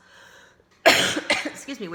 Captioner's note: loud cough